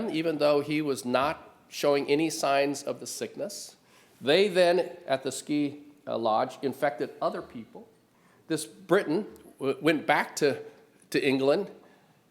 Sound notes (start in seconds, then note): none